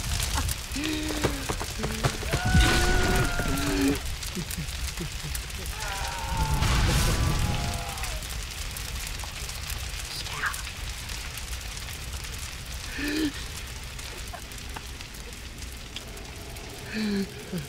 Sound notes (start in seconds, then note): 0.2 Devlin laughs gleefully; 5.6 screaming fades; 12.5 more laughter